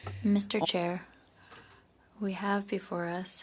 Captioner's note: speaking in French